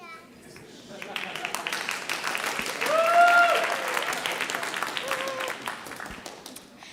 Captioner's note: audience cheering and applauding